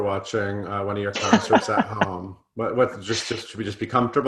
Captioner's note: laughing